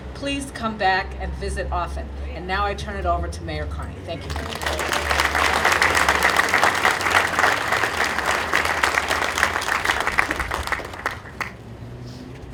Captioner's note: audience applauding